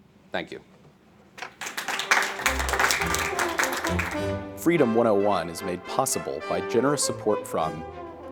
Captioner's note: applause